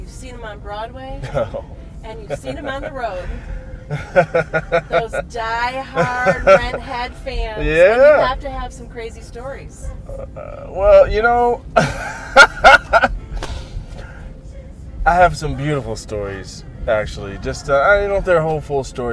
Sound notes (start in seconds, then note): 3.9 laughter; 11.8 laughter